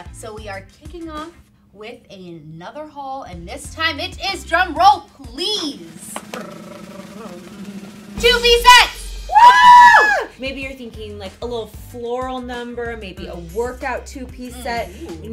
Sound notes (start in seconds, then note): 5.3 snare drums beating; 9.2 cheering